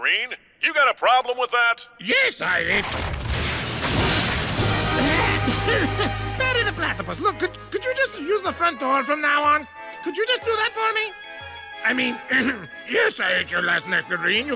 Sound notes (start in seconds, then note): 2.6 rumbling; 4.9 coughing; 12.9 low voice